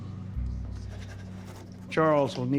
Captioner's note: scribbling